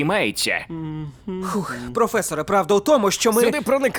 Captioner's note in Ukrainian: вдих